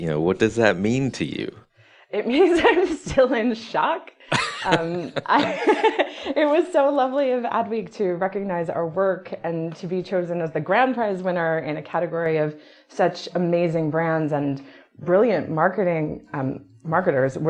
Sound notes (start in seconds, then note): 4.2 laughs